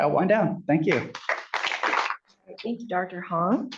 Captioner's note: applause